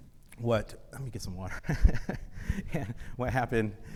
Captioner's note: chuckles